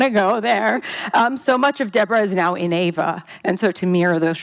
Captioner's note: voice shaking